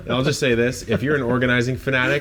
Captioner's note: laughs